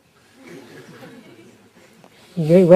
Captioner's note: laughter